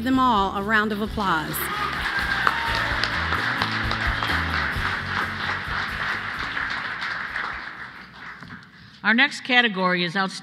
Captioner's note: applause